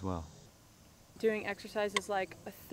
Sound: metronome ticks

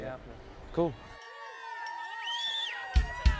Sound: crowd cheering

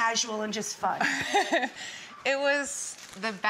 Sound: Gwyneth laughs

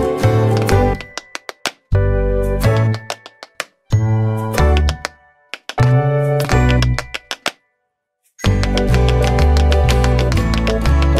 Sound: tap dance

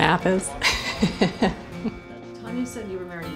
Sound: laughing

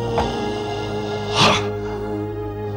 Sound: sighs

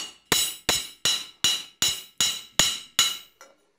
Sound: bright metal hammering

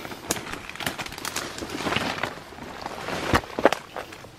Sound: cracking branches

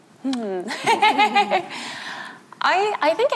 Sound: everyone laughing

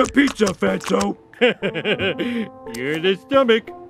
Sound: laughing

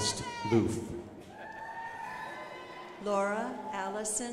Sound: crowd applauding

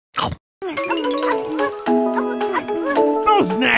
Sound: Chao noises

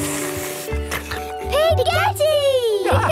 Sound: slurping

